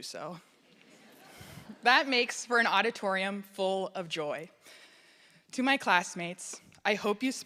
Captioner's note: laughter